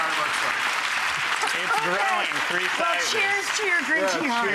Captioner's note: audience applauding